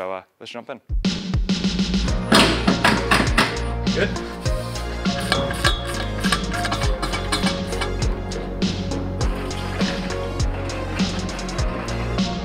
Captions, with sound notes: So let's jump in. (upbeat instrumental music) (metal clanging) Good. (wrench rattling) (upbeat instrumental music)